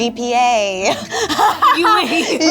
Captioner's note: laughing